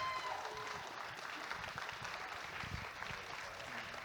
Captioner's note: audience applauding